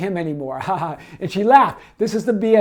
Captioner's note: laughs